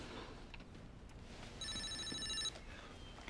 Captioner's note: cell phone ringing